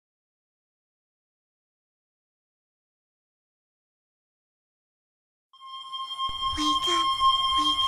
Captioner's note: distorted ringing plays continuously